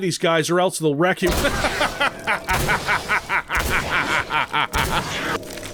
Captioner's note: laughing joyfully and maniacally as he proceeds to wreck *them